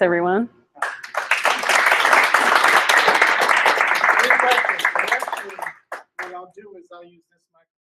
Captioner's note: applause